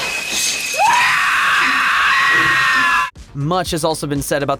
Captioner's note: screaming